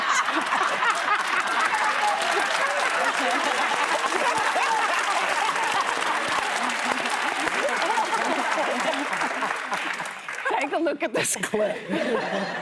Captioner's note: audience reacts